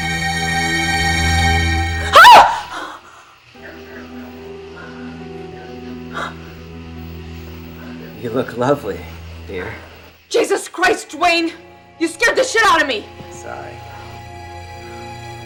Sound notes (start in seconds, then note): 2.0 screams; 3.5 dramatic music